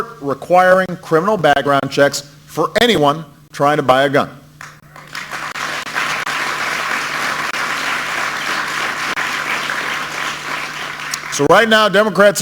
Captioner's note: applause